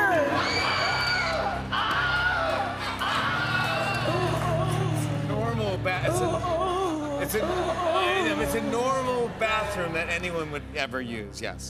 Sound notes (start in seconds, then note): 0.0 women screaming; 0.2 Wilhelm screams